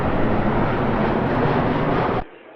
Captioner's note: sound of airplane engines